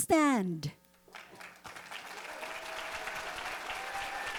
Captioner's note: audience cheering